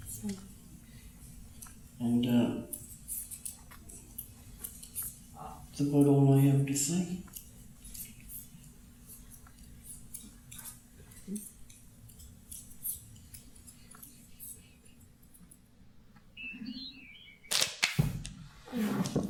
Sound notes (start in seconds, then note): 10.5 sound of knitting needles brushing against each other; 16.9 crack, crack, crackle, crack, crack